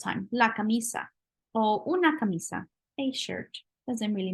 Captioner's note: spanish